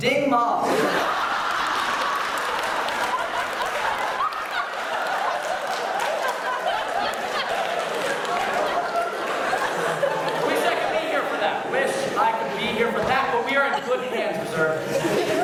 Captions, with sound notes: Ding Ma. [super loud laughter and cheers] Wish I could be here for that! Wish I could be here for that, but we are in good hands, Reserve.